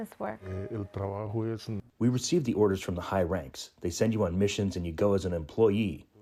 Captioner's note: through translator